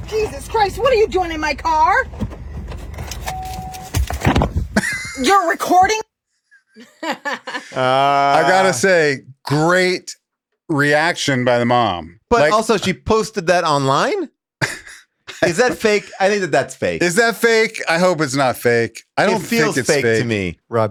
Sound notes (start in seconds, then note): 2.0 gear shift thuds; 3.3 car beeps; 4.7 Rob chuckles; 6.7 laughs; 14.6 Rob chuckles